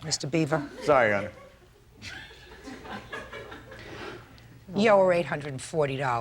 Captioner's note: audience laughing